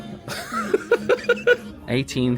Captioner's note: laughs